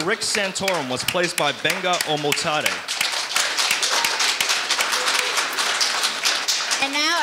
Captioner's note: audience applauding